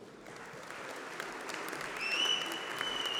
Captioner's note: applause